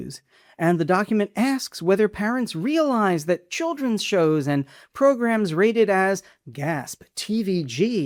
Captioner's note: gasp!